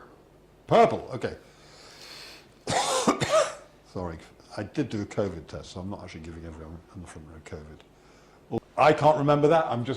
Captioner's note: cough